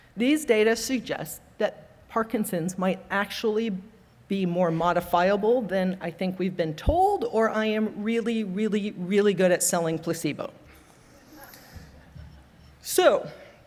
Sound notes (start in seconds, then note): 11.4 audience laughing